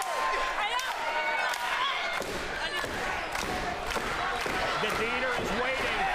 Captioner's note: staccato clap